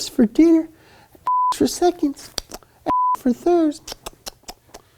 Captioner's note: beeps